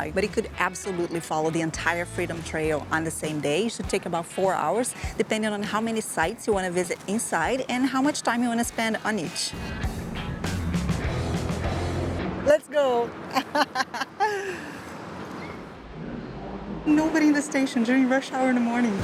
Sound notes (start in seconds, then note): 13.2 laughs